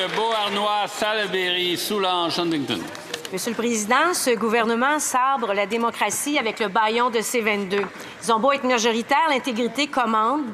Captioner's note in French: applaudissements